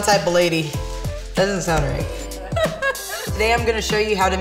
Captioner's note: laughs